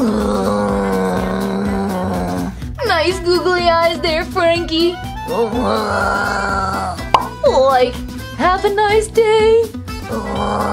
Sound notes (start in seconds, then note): 0.0 moans; 5.3 moans; 10.0 moaning